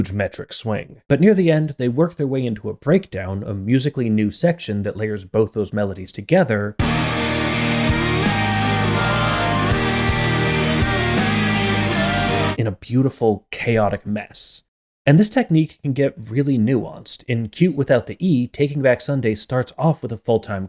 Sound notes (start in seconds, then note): 6.8 bang